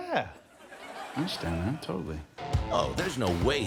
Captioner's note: audience laughing